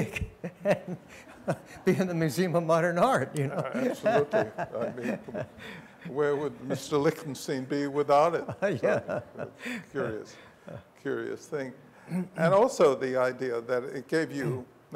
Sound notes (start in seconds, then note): 0.3 laughs; 8.3 laughs